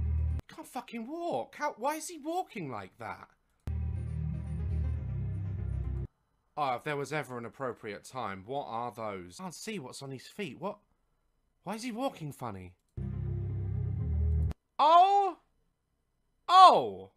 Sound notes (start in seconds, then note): none